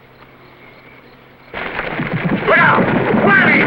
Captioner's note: wall Collapsing